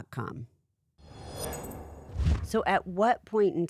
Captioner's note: scene whooshing